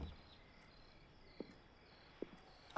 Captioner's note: door opens